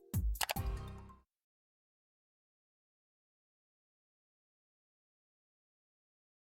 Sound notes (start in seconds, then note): 0.3 mouse clicking